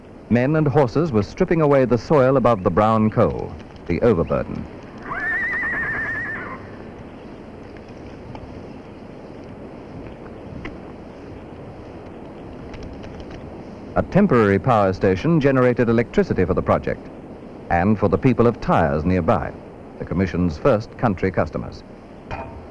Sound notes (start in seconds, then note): 4.9 horse neighs